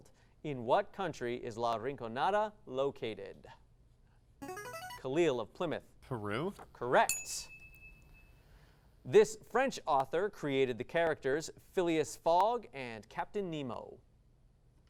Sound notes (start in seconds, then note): 4.4 device sound; 7.0 ding